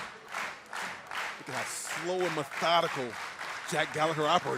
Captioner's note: clapping